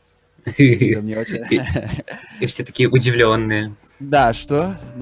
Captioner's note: laugh